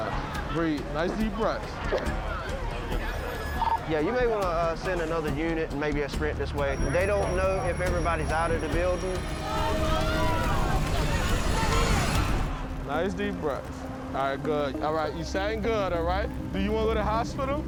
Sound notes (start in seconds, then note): 8.7 crowd shouting